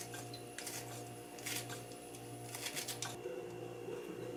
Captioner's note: snip snip snip